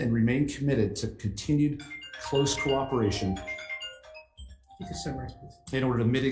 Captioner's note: phone timer rings